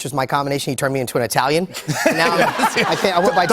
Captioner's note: laughter